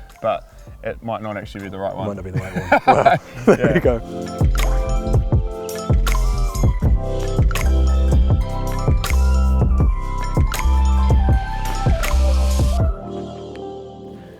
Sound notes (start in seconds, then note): 2.3 laughs; 6.0 chill music